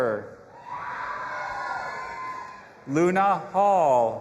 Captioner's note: audience applauding and cheering